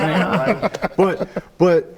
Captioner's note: everyone laughing